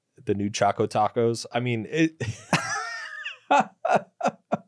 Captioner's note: laughs